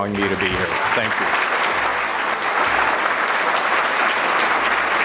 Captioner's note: audience clapping